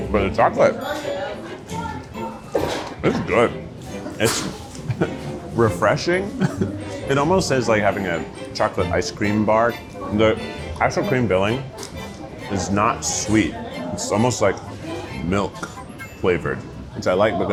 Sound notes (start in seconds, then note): 1.6 gentle bright music; 6.2 chuckles